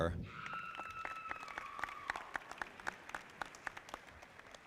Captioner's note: audience applauding